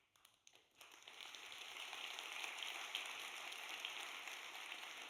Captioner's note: audience applauds